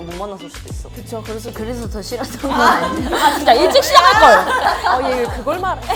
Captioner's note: laughs